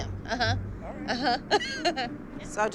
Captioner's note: laughs